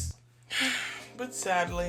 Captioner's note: sigh